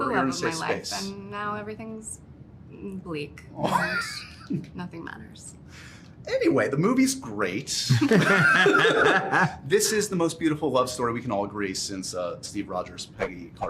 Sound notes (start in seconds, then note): 7.8 laughs